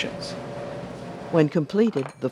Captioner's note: voiceover